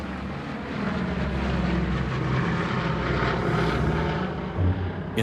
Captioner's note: aircraft engine roars